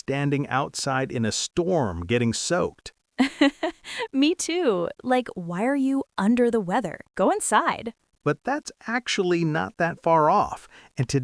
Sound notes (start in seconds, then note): 0.0 laughs; 3.2 laughs